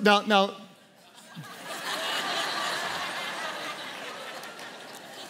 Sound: congregation laughs

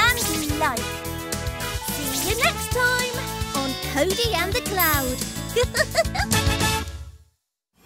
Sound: giggles

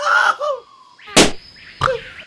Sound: balloon pop

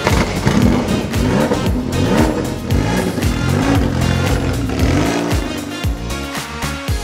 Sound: car roars; upbeat music continues

